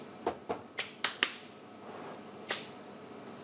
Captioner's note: clapping